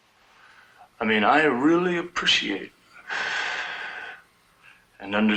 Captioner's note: exhales